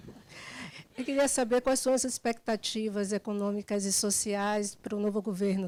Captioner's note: student speaking Portuguese